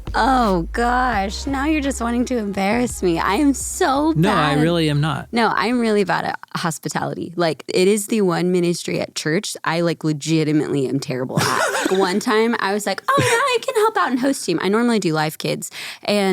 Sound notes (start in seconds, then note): 11.4 laughing